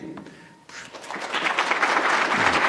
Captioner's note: applause